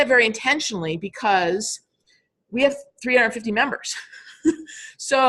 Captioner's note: laughing